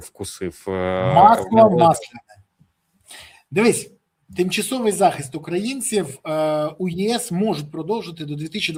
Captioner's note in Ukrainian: сопіння